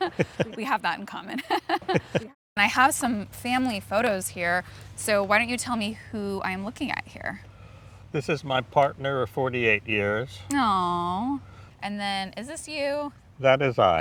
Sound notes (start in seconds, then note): 0.0 both laughing